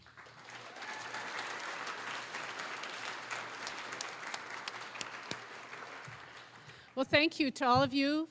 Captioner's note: applause